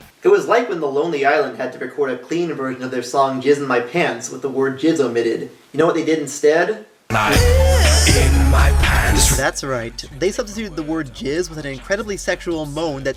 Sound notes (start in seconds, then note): 7.1 moan